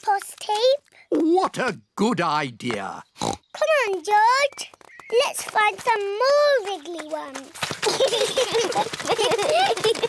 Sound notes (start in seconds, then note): 3.2 oinks; 7.8 both giggling